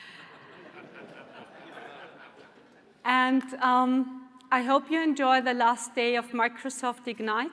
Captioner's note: laughter